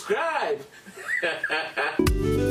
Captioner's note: laughs